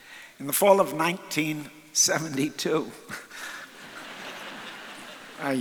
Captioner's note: chuckles; audience laughs